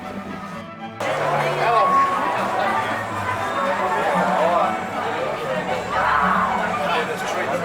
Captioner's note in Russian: шум улицы